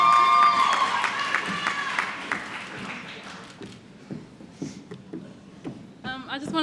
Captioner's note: applause